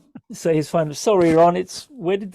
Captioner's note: laughing